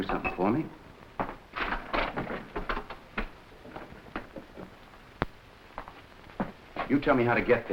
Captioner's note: footsteps echoing; furniture clanking